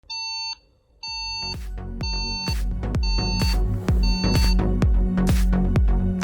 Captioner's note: alarm clock beeping